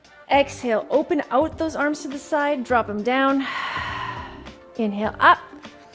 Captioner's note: exhales